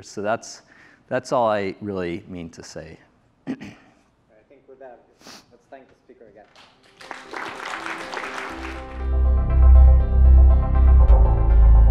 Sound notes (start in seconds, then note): 6.4 applause